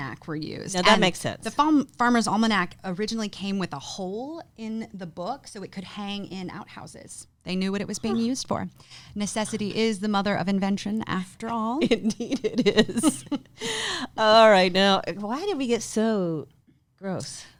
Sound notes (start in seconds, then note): 7.4 gasps; 12.6 laughing